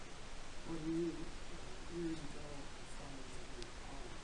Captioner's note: man speaking